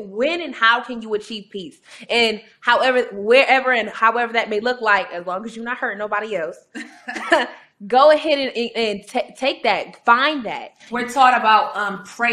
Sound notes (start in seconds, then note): 6.8 both chuckling